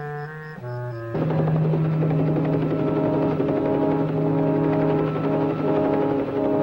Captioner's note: suspenseful music; helicopter roaring